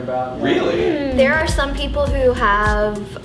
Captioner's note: clears throat